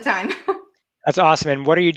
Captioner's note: laughs